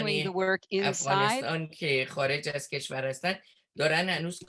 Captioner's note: foreign language 01:26:57